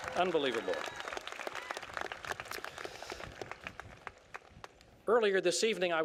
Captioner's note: applause